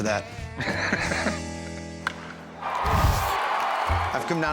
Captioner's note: laughs; baseball bat striking ball; crowd cheering